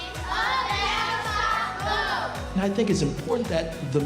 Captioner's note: children speaking in unison